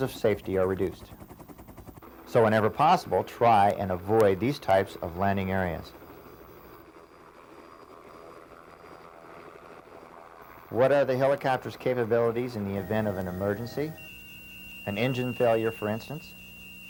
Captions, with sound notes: power dependent and margins of safety are reduced. So whenever possible, try and avoid these types of landing areas. (Helicopter rotor noise) What are the helicopters capabilities in the event of an emergency? An engine failure for instance?